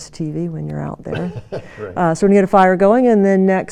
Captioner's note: laughs